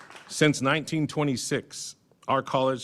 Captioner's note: applause